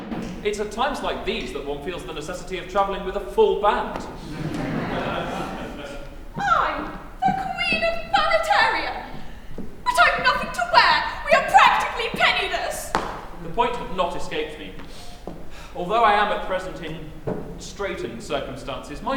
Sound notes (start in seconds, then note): 0.0 drum roll; 4.2 laughter